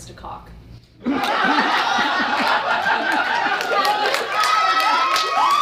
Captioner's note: audience laughing; audience cheering